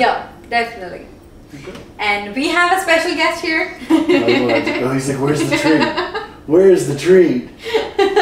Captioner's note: laughter